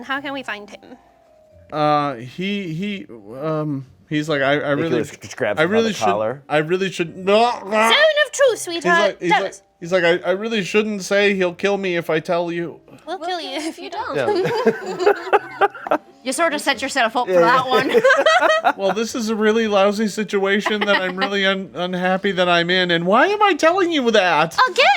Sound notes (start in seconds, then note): 7.4 groans; 14.1 group laughs; 17.3 group laughs